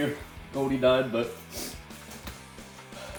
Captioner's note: tragic sniff